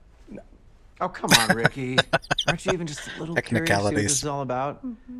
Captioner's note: laughing